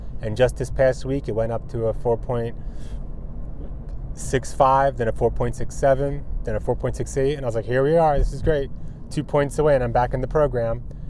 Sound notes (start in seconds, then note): none